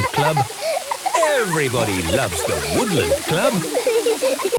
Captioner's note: laughter